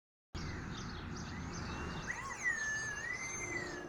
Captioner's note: birds singing